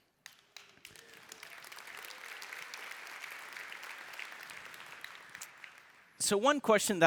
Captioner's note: applause